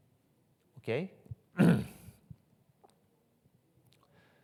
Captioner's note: clears throat